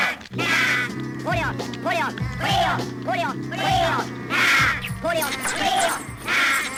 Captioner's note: squeaking